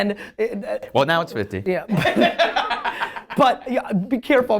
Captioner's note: laughing